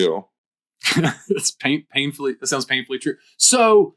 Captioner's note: chuckles